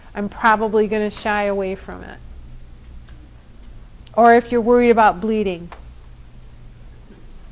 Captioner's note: none